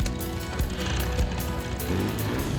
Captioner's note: motor whirring